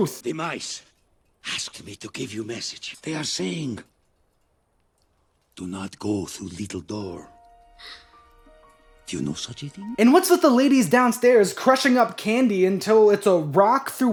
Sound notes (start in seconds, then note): 7.8 gasp